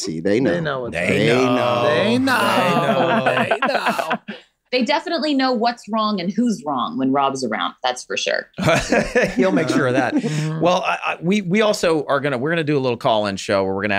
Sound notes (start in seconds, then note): 8.6 chuckling